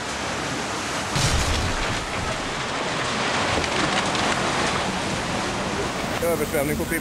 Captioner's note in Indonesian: suara reruntuhan